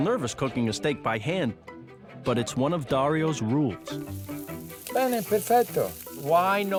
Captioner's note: speaking Italian